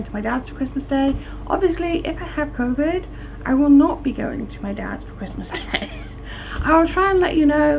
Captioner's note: laughs